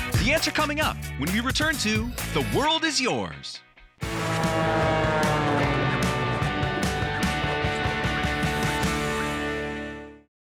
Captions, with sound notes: The answer coming up when we return to "The World Is Yours." (upbeat music) (airplane whooshing)